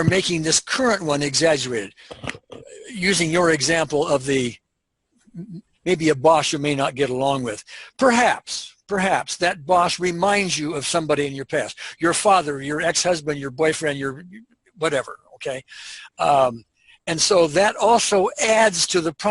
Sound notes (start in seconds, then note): none